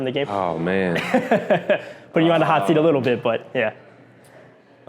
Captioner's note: laughs